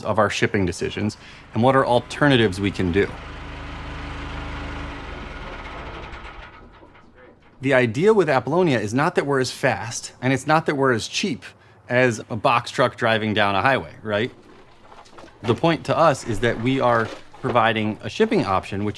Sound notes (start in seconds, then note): 3.4 engine rumbling